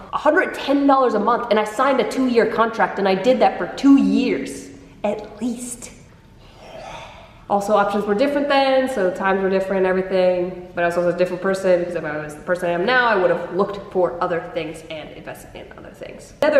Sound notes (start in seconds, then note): 6.3 breathes out air